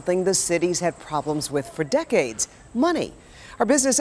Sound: interference on audio line

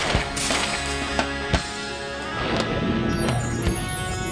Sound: explosion

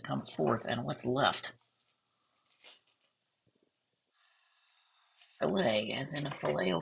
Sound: silence

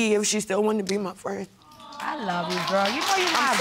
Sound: sobs

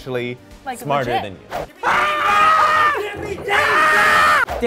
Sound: screaming

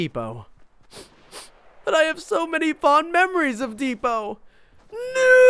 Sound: sniffs

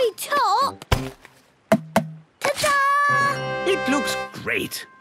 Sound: tapping

